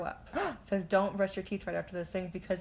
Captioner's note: gasp